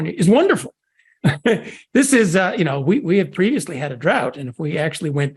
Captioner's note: laugh